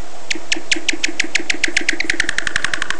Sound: very fast chirps

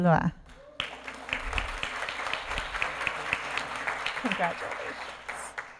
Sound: applause

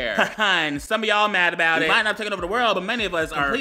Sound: laughing

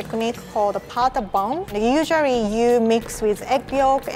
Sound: speaking foreign language

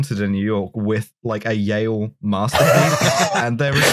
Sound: laughter

